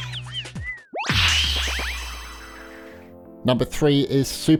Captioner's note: sharp zapping; bright chiming